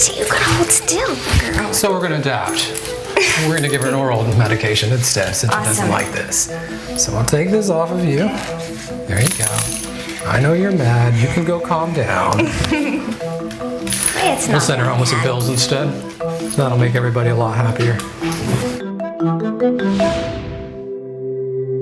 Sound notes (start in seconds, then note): 3.2 woman chuckles; 13.2 object clangs; 18.8 dramatic music